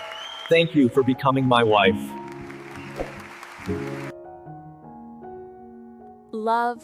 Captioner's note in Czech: Potlesk